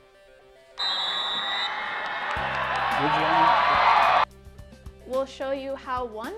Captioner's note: whistle blows